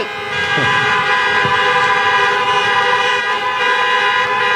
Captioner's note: horns honking